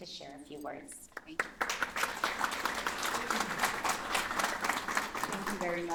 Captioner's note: applause